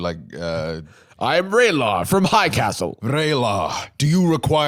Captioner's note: Scottish accent